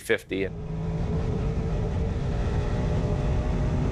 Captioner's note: engine roaring